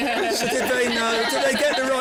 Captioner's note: laughter